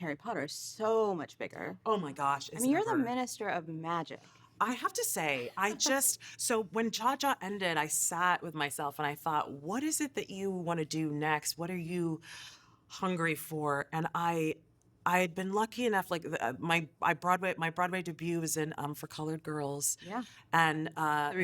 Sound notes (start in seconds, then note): 5.4 laughing